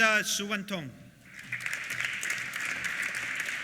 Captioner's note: applause